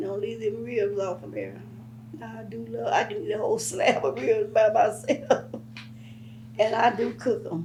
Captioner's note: laughs